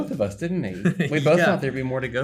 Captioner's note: Ben chuckling